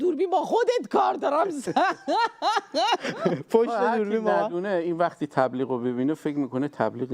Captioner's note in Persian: خنده